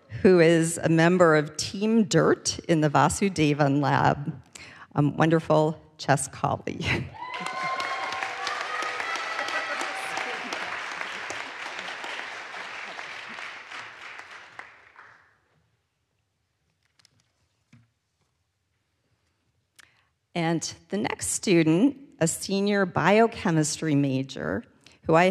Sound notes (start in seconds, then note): 7.1 audience cheers; 7.1 audience applauds